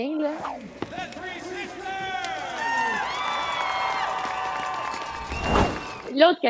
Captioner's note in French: applaudissements